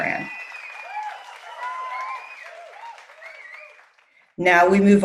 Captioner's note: cheering